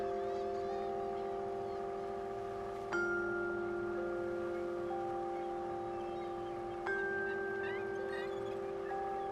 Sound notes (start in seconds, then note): 1.3 engine hums